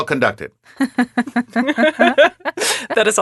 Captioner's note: laughing